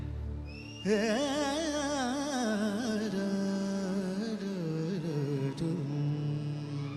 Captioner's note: man vocalizing in foreign language